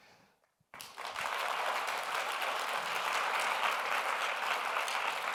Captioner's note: audience applauds